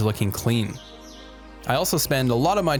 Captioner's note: birds chirping